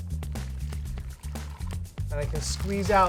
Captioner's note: pouring brine